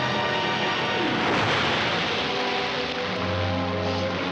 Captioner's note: big crash